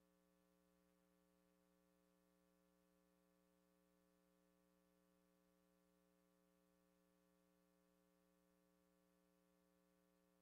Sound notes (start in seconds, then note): none